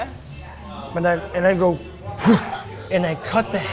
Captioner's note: mimics thudding